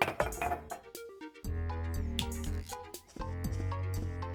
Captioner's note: fingers Snap